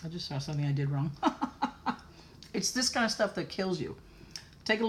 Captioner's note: laughter